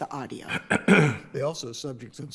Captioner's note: judge clears throat